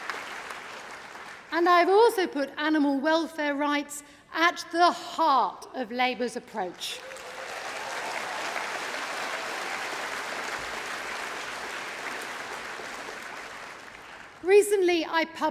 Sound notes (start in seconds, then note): 10.6 applause